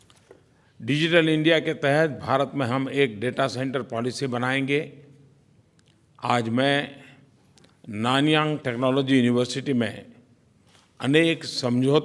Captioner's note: PM Modi speaks in Hindi